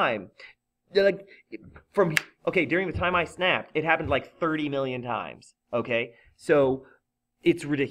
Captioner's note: snap